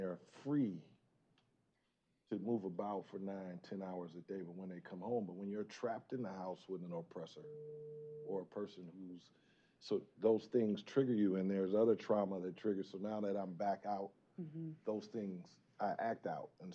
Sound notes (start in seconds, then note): 7.4 tone